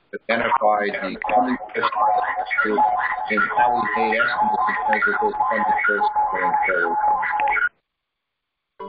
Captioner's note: feedback